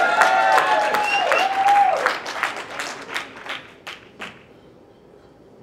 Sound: cheering; audience cheering

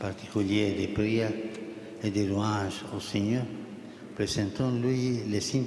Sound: speaking Alternate Language

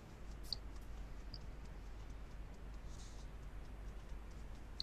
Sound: fingers tapping softly

